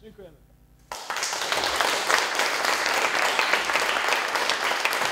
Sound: applause

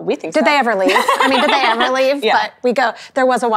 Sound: laughing

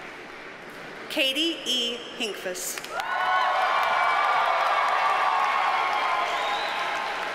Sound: audience cheers and applauds

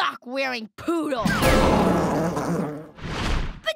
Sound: growling

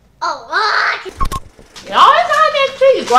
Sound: beep

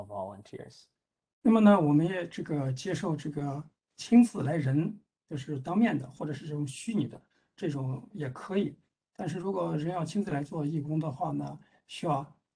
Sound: speaks in Mandarin

